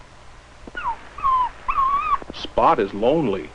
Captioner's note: pitiful whimpering